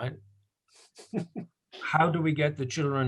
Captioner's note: laughs